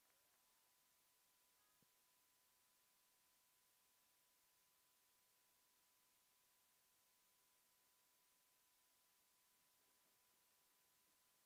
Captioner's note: applause